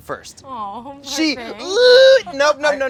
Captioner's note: squeals